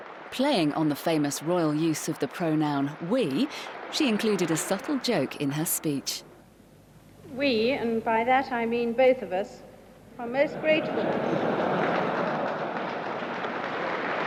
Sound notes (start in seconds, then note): 10.5 audience laughing